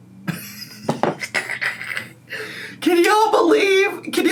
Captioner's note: laughs